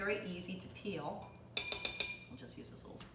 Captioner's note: spoon tapping